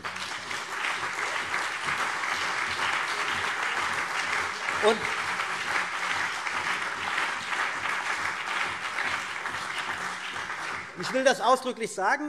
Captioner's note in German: Beifall CDU und BÜNDNIS 90/DIE GRÜNEN